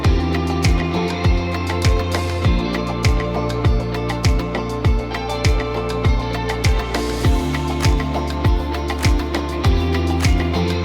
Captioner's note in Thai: ปรบมือ